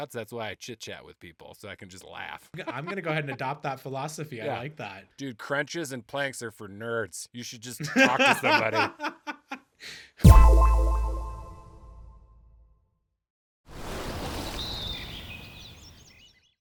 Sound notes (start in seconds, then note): 7.8 laughing; 10.2 tone echoing